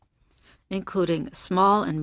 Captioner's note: speaking French